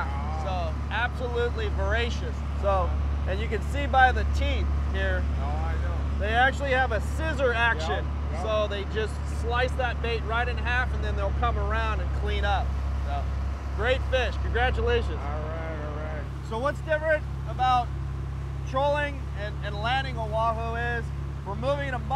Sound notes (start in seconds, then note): 16.7 boat engine running